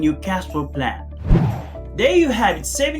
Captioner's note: air swooshing